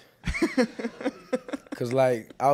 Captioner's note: reporter laughs